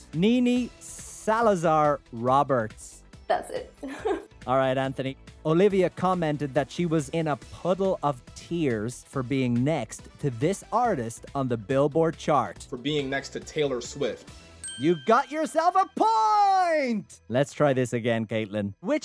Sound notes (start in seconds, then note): 3.8 chuckles; 14.6 bell dings